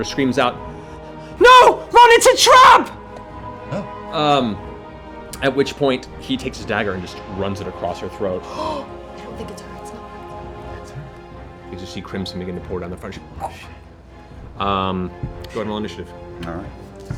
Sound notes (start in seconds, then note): 13.4 choking